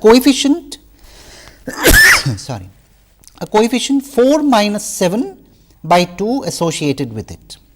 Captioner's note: sneeze sorry